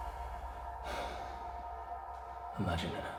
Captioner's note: Danny sighs